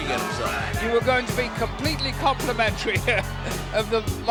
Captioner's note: laugh